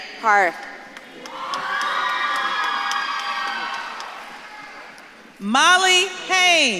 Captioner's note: audience claps and cheers